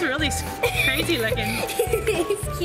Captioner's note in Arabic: ضحك